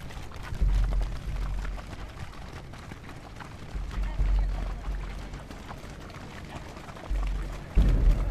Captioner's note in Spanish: Sound marchando pies